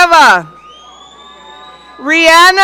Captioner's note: audience cheering